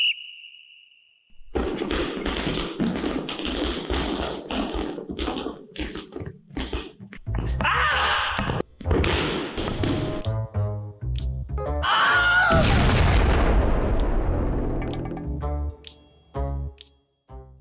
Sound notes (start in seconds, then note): 0.0 whistle blows; 7.6 screams; 11.8 screams; 12.5 explosion